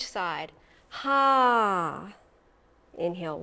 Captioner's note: sighs